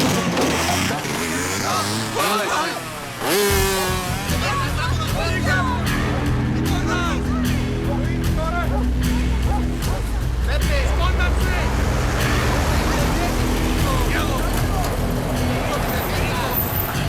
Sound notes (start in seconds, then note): 4.2 slow dramatic music; 5.9 people speaking in foreign language